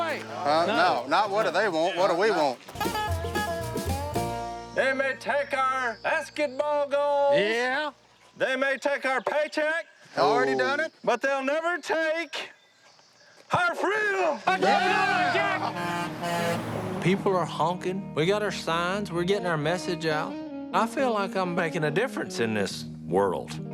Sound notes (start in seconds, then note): 14.4 all cheering; 14.4 passing truck honks